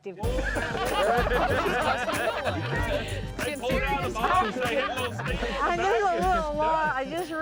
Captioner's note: all laughing